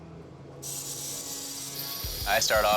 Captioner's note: machinery whirring